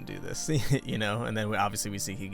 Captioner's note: chuckles